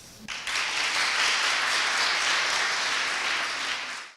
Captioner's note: audience applauding